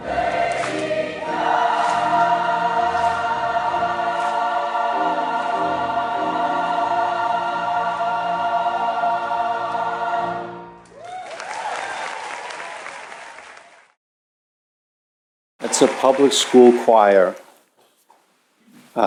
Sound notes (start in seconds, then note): 10.9 applause